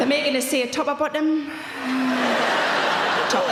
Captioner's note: audience laughing